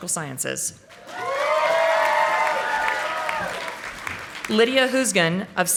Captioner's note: audience applauding